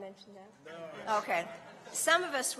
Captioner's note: laughter